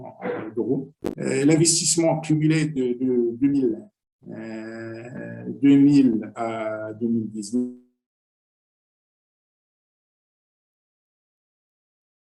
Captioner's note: connection lost